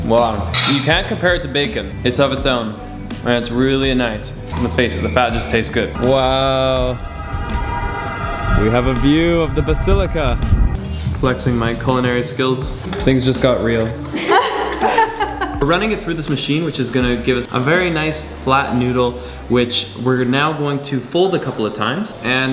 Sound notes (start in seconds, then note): 14.1 laughs